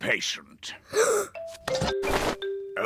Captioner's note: gasps